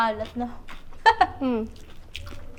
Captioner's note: chuckles